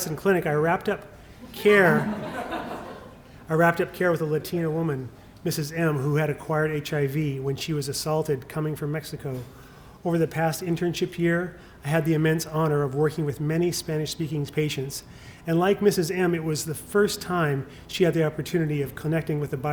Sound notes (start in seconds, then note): 1.4 laughter